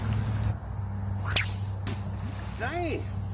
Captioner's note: splash; sling whips; splash